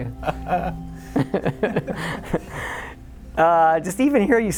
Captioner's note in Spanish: riendo entre dientes